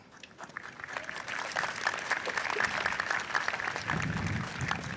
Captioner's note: audience applauds